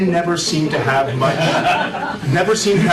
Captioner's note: laughter